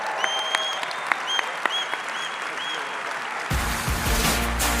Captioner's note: audience applauding; audience cheering; audience member whistling; upbeat music